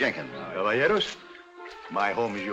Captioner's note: in spanish